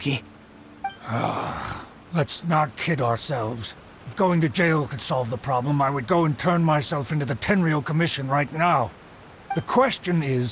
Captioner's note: sigh